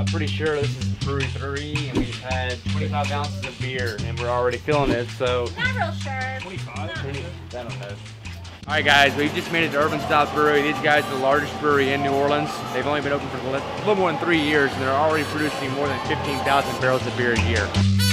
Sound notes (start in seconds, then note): 9.0 chattering